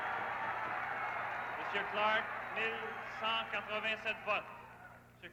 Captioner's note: cheers and applause